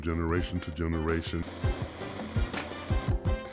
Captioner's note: blender spinning